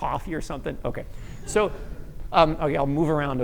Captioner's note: laughter